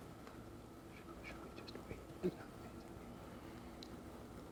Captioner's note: whispering